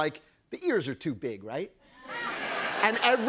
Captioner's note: laughter